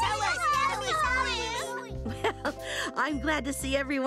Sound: chuckling

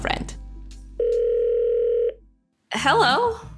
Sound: video call ringing

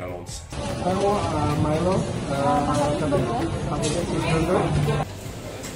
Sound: speaking in foreign language

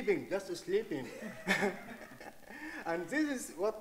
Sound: chuckles; audience laughing

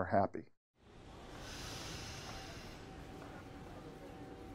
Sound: hissing

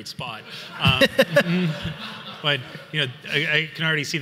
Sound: everyone laughs

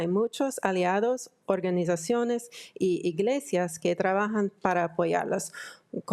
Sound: speaking in foreign language

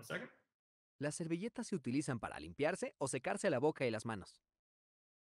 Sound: speaking spanish

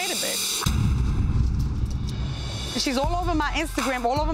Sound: dramatic reverb

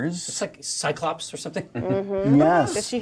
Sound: laughs

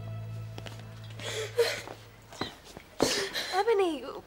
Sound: Ebony sobbing

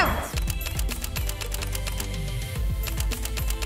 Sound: camera clicks

